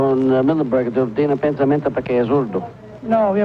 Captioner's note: speaks Spanish